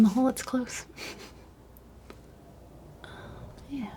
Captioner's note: laughs